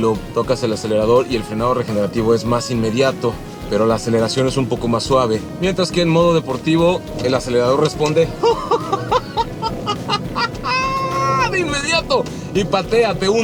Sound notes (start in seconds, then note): 10.6 laughs